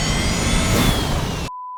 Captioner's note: alarm blaring